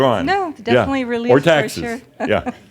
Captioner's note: she chuckles